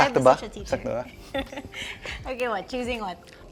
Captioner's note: laughs